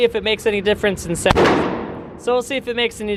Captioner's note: gun shot fires